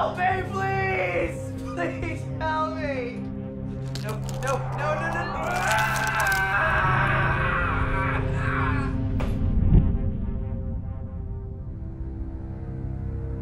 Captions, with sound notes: Help me, please! Please, help me. (toenail crunching) No, no, no, no. (screams)